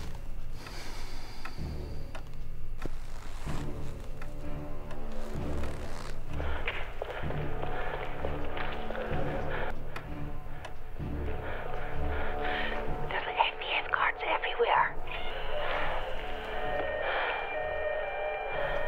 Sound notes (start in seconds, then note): 3.7 dramatic music; 9.6 running footsteps; 18.6 Susan pants; 18.6 siren blares onscreen